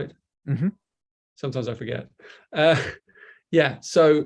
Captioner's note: chuckles